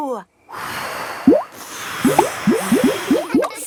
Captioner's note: all blowing